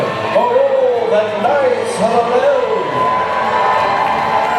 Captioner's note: cheering